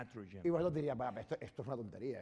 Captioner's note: speaking spanish